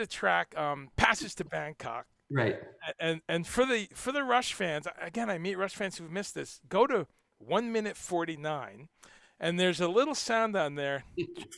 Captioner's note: mimics sharp inhale sound